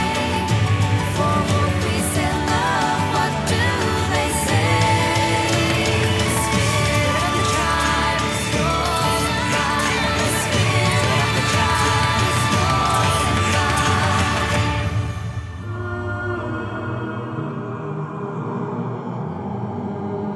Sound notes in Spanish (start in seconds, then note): 15.2 zumbido melódico